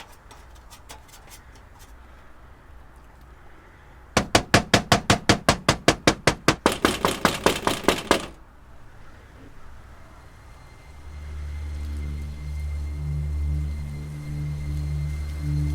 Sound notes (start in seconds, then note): 4.2 Nick knocking; 10.3 eerie dramatic music